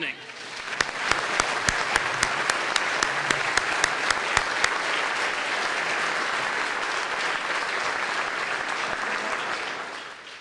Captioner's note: applause